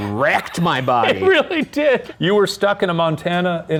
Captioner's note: laughing